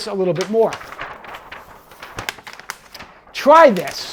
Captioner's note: paper rustles